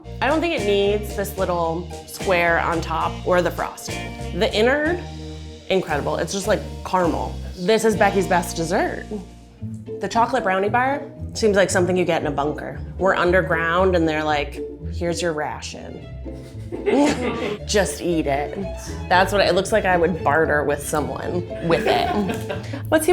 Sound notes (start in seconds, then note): 16.9 crew chuckling